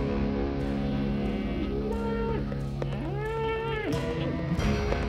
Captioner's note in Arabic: موو الماشية